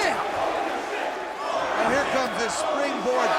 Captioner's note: spectators chanting "Holy shit!"